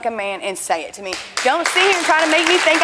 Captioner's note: audience clapping